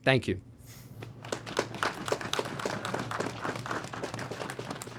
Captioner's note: applause